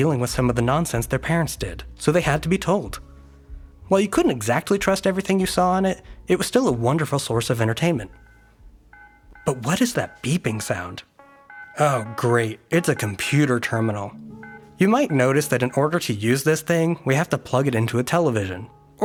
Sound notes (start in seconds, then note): 8.1 faint beeping; 11.6 beeping